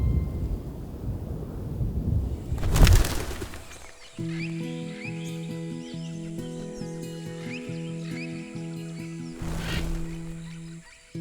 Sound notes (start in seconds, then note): 4.4 birds chirping